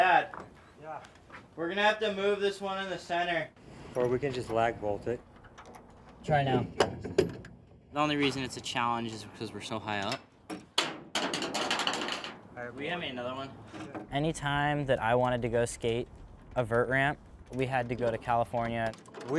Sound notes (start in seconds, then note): 6.4 wood banging; 11.3 tool clanging